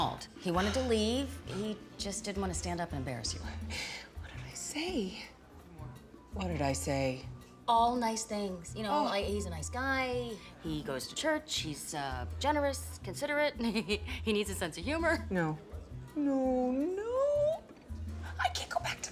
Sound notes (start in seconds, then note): 13.5 giggles